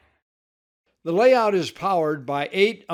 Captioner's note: voiceover